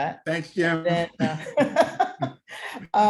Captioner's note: laughter